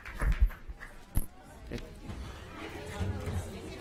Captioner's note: applause